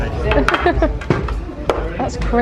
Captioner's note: chuckles